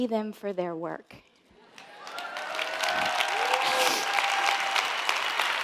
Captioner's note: audience applauding